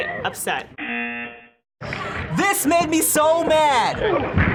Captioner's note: buzzer